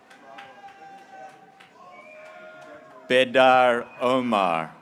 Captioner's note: graduates cheering